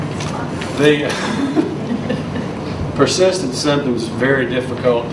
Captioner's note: laughs